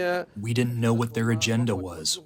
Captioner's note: through translator